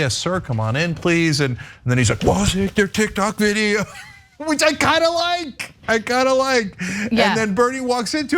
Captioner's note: laugh